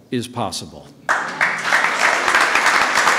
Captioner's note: applause